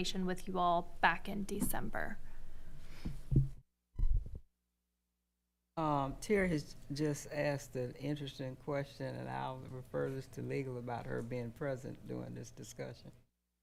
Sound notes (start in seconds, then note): 4.0 microphone rumbling